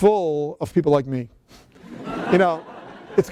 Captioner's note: laughter